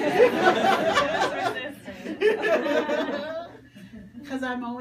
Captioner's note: people Laugh